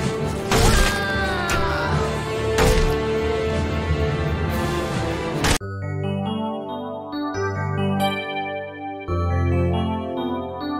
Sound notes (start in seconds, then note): 0.6 scream